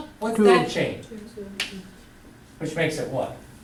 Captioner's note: voiceover